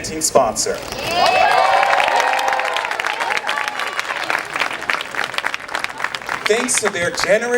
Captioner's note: cheering